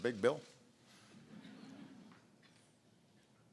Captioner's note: laughter